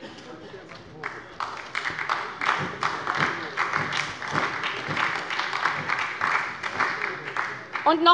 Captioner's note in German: Beifall bei der SPD